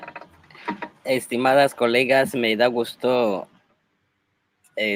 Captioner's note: speaking Spanish